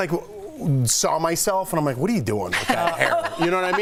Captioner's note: laughter